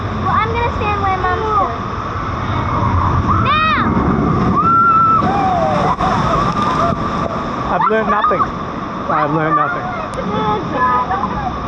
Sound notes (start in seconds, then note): 4.5 riders screaming; 4.8 massive water splash fx